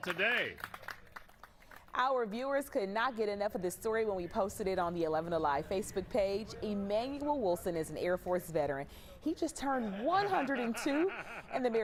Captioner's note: applause